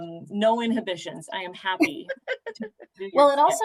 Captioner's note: laughter